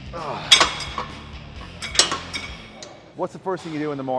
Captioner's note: metal clunking